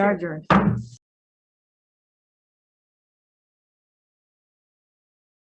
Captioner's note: hammers the table